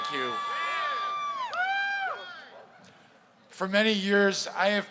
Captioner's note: crowd cheering